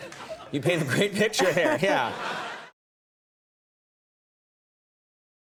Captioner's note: audience laughs; Scarlett laughs